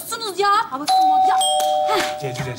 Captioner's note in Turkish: Zil çalar